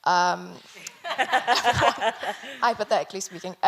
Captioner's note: everyone laughing